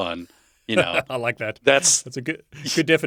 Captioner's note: laughs